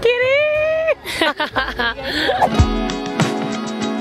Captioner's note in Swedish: Skratt